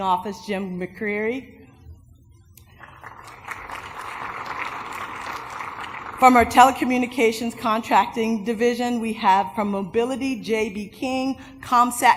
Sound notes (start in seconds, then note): 2.7 applause